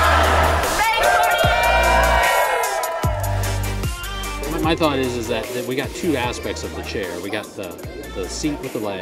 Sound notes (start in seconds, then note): 0.0 crowd cheering; 2.9 upbeat music